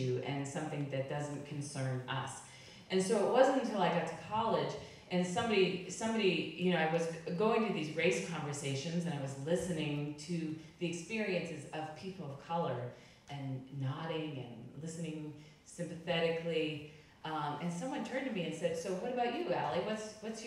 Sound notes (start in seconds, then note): none